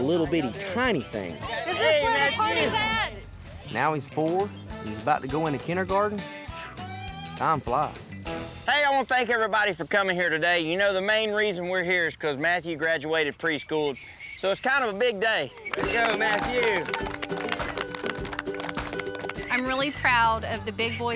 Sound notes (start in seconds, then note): 15.7 everyone applauds